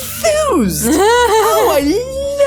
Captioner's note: laughs